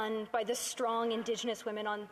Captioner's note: speaking Indigenous Language